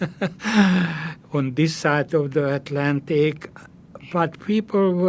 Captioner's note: laughing